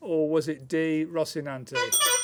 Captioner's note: honking